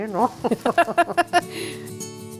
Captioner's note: laughs; relaxing music